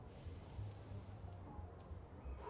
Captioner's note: breathes deeply